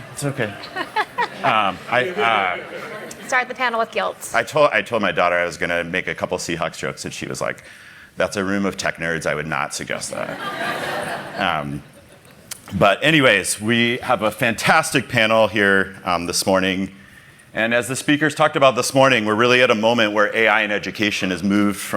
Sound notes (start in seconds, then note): 10.2 laughter